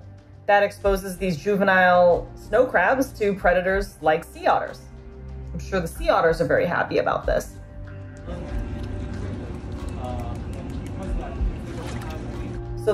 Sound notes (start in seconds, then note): 7.7 background music; 7.7 water splashing noises; 9.6 gentle tapping sound of otter clapping paws; 9.7 background chatter; 9.7 background music; 11.7 water splashing noises